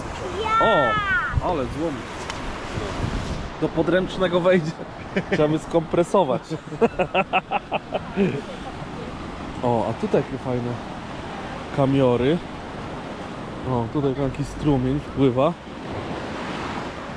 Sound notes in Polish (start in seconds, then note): 6.5 śmiech